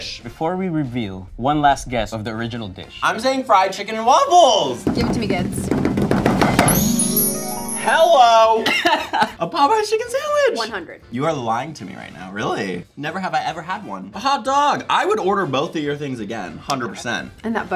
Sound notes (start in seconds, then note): 4.9 drumming fingers